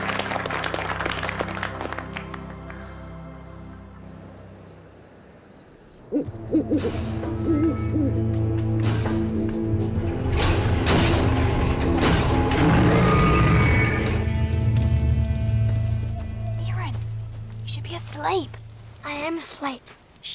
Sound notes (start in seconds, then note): 6.0 owls hooting; 6.3 machinery creaking loudly